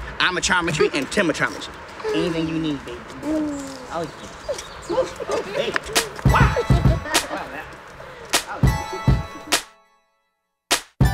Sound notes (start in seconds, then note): 4.2 laughing; 6.8 hip hop music